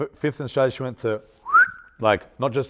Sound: whistling

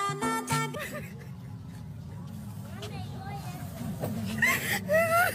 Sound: sobbing

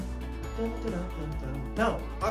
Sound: humming

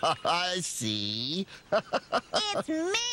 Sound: laughing

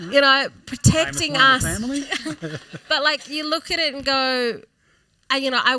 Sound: laughs

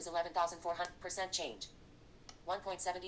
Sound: click

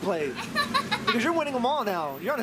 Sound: laughing

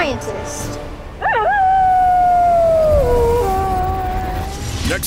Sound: Direwolf howl

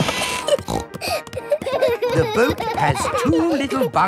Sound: snorting; kids giggling

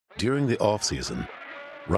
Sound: voiceover

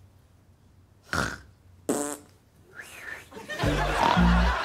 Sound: snorts, blows raspberry, whistles

